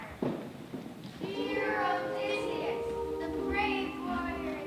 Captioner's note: sirens